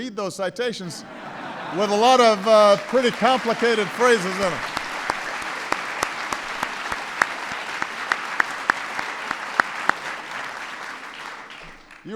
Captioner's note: laughter; applause